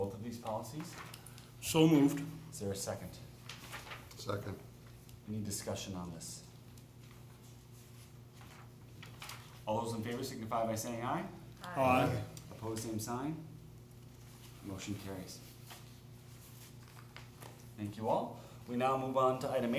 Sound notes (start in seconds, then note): 11.6 chorus of ayes